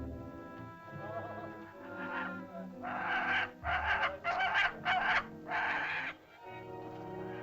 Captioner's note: soft dramatic music; vultures squawk; soft dramatic music